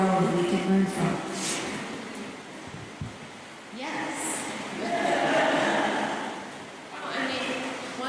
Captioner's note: chuckling